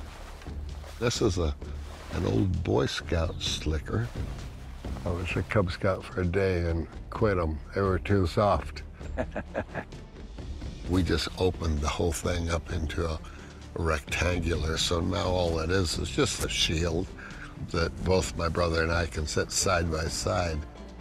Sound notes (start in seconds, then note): 9.0 laughs